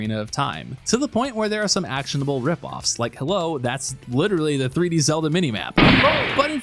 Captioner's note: gunshot